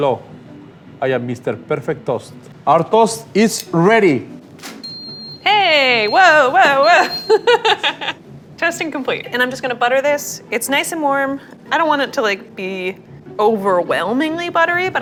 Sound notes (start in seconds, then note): 4.8 toaster beeping; 6.1 laughing